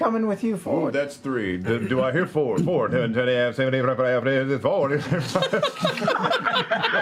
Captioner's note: speeds into auction chant; laughter